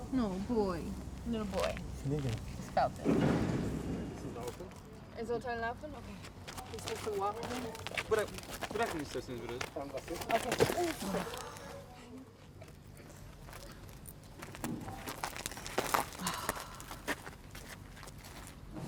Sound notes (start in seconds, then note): 2.4 speaking in foreign language; 13.3 gasps; 14.4 calf stomps; 16.0 sighs